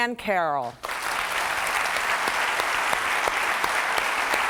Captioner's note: clapping